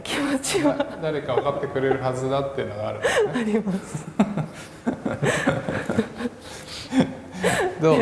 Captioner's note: laugh